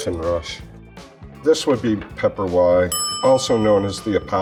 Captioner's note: bell dings